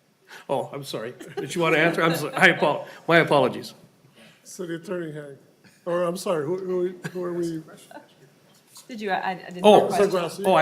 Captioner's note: laughing